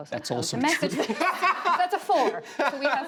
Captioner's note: laughter